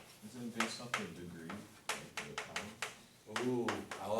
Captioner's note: voiceover